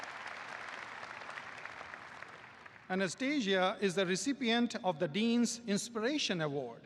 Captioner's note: applause